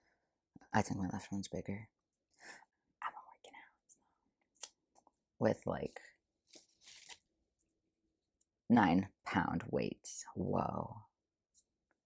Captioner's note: whispers; back to speaking voice